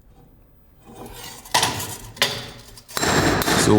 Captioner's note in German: Metallische Schläge